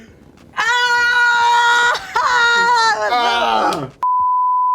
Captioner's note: screaming